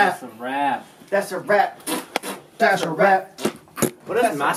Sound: fart noises

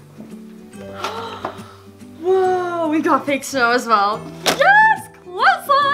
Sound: gasp

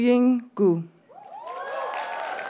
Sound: audience cheers and applauds

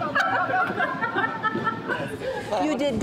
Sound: laughing

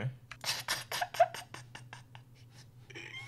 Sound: laughs

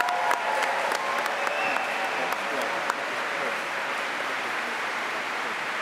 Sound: applause

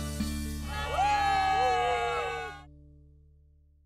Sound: yelling and waving

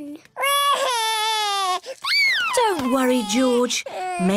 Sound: cries

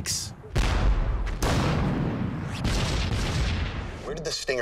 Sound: missiles exploding

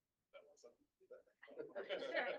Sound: indistinct chatter

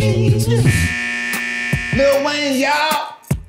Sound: bell buzzing

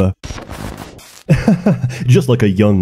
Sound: nervous chuckle

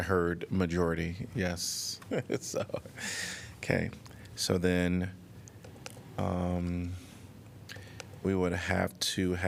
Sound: laughter

